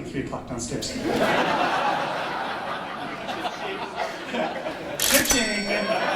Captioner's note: laughter